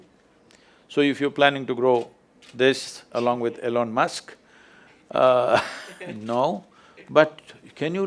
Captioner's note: Laughs